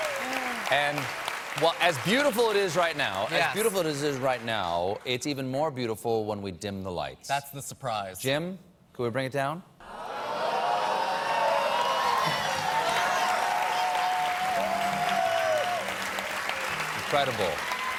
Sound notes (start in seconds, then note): 6.9 audience reacts; 6.9 cheers and applause